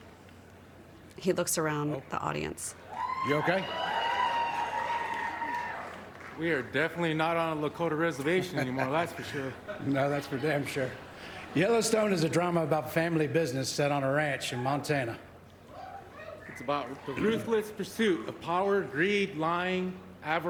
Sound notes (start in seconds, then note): 4.7 applause